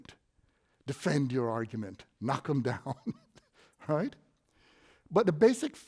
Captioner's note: snickers